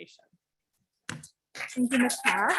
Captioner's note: audience clapping